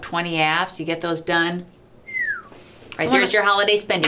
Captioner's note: whistles